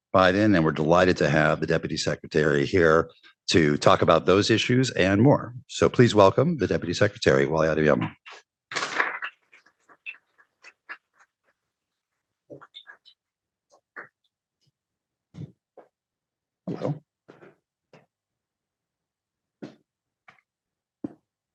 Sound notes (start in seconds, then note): 13.5 applause